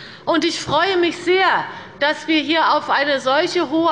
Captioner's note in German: none